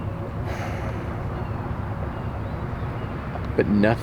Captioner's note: sighs